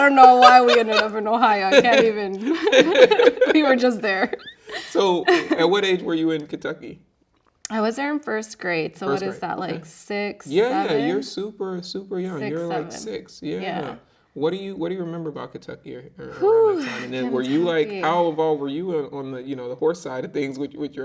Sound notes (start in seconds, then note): 2.7 both laughing